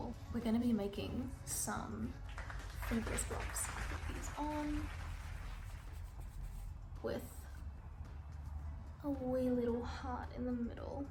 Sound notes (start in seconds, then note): 5.4 applause